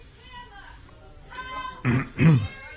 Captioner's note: crowd groaning